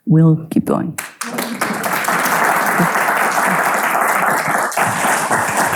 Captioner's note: audience applauding